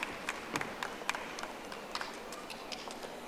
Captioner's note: audience applauding